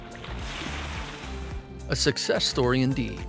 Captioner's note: water splashing